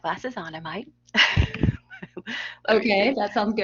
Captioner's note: laughter